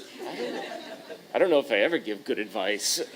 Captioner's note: chuckle